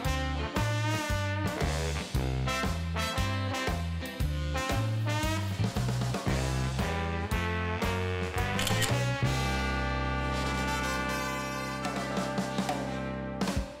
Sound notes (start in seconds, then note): 8.5 camera clicks; 9.5 upbeat jazz music